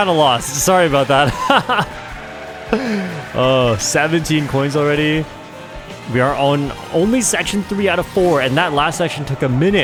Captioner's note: laughs